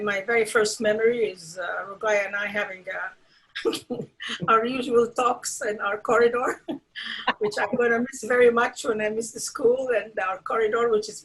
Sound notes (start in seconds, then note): 3.7 chuckles